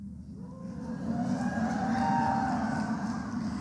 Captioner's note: applause